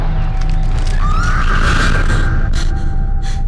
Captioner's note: gasping; Mattie screams